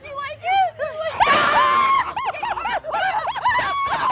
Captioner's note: screams